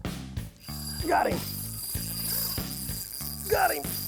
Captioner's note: reel whirring